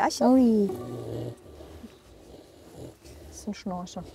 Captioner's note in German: Das Pferd schnarcht